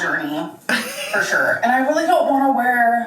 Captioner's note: laughs